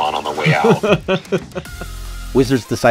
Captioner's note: laughs